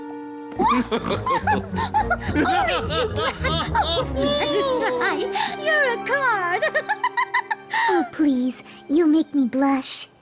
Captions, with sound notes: [laughter] "Orange" you glad! Fluttershy, you're a card! [giggles] Oh please, you'll make me blush.